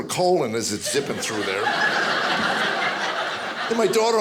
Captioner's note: audience laughing